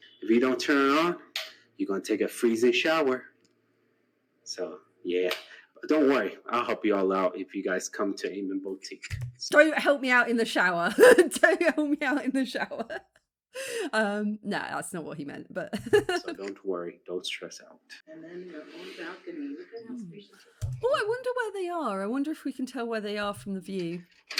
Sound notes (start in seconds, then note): 11.3 laughing